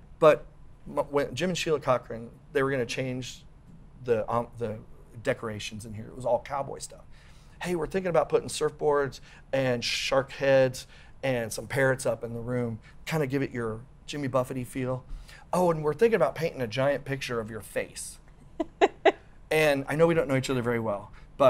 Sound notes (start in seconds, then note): 18.6 laughs